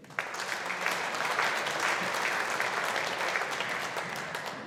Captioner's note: audience applauding